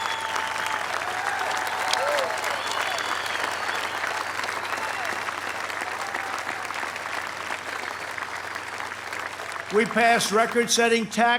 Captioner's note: applause